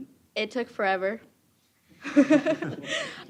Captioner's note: chuckling